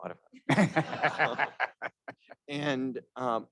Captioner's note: all laughing